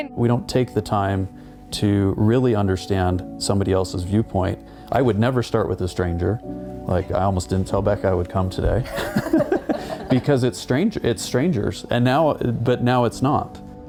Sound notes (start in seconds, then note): 8.8 all laughing